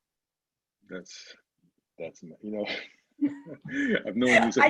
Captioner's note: chuckles